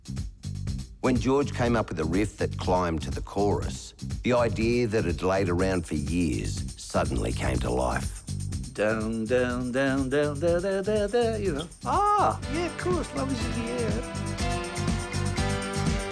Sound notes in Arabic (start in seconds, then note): 8.8 تقليد لحن أغنية " "